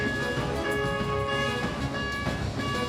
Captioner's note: beeping